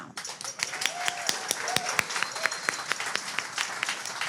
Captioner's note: audience claps